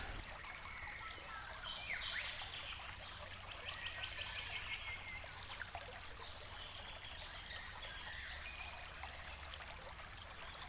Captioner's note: birds tweeting, water flowing